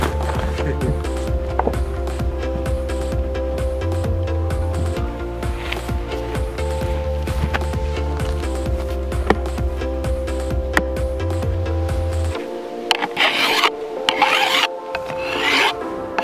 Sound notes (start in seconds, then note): 0.3 man laughs; 1.8 upbeat electronic music